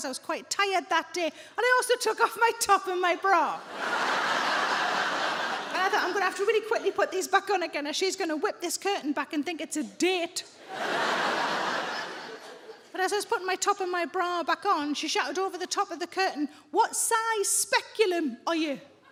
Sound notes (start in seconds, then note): 3.6 audience laughs; 10.6 audience laughs